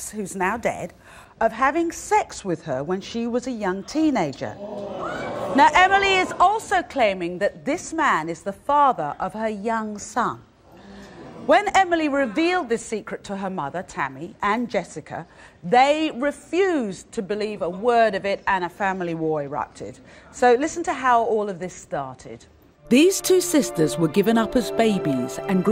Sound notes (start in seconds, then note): 4.6 audience gasps